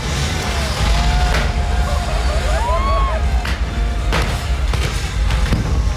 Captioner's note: crowd wooping and clapping; explosions